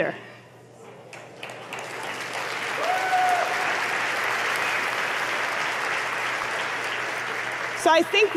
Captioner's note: applause